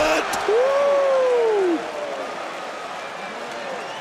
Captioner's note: crowd cheers